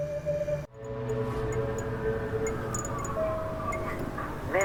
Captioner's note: street noises